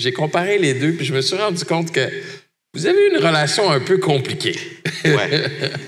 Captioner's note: laughs